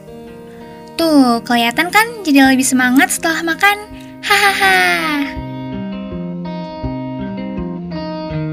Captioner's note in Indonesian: tertawa